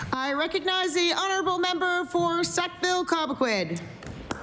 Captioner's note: applause